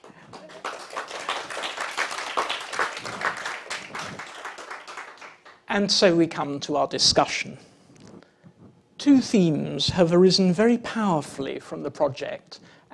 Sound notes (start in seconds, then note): 0.0 applause